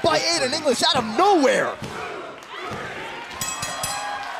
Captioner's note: crowd cheering; bell ringing